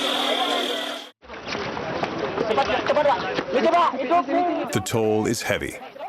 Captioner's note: non-English speech